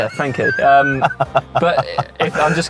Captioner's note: dad laughing